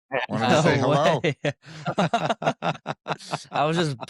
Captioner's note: laughs